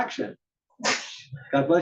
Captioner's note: cough